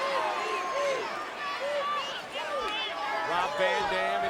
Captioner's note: audience chattering